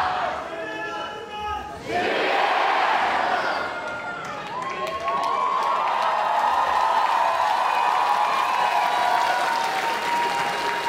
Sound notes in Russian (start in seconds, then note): 3.8 аплодисменты